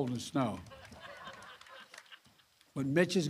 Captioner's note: laughter